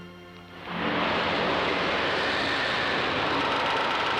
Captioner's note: machines whirring